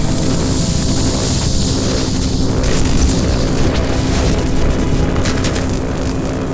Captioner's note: crackling